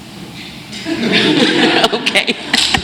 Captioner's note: laughter